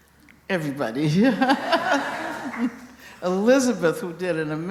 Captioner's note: laughter